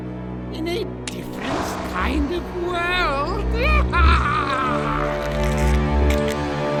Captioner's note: laughs